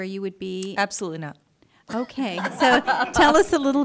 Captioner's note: laughter